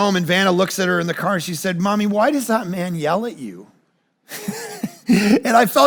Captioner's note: laughs